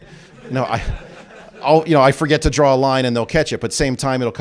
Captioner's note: laughter